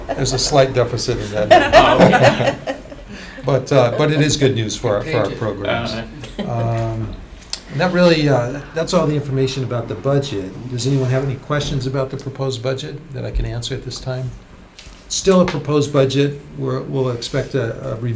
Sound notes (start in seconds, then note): 2.7 laughter